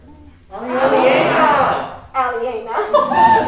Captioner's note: crowd